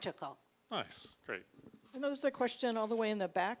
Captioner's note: voiceover